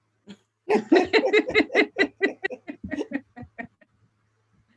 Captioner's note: laughing